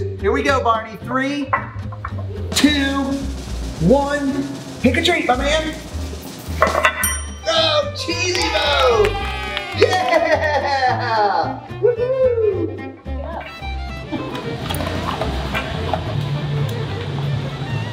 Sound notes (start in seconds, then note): 7.8 crowd cheering; 13.5 soft music plays